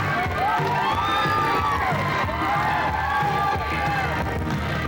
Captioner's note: cheers, applause